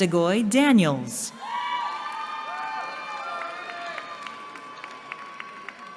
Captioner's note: cheering